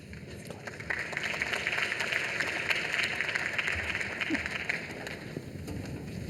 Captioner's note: applause